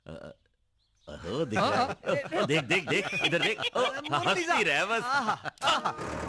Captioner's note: all Laughing